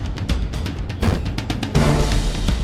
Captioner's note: poof